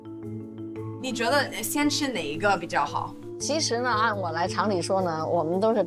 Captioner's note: speaking foreign language